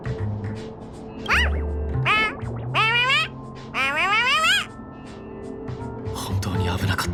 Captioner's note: woof! Woof! Woof!